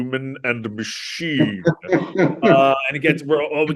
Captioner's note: laughing